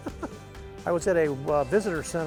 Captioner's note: chuckles